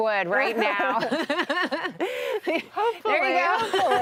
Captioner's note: group laughs